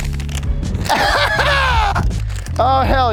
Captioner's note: laughs triumphantly